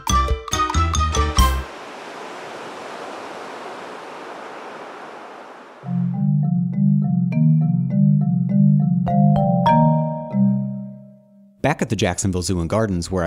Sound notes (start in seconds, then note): 1.4 ocean waves crash; 5.8 marimba music